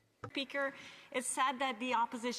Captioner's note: speaking French